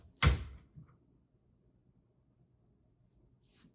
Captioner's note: hand thuds